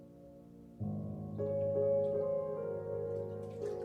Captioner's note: water ripples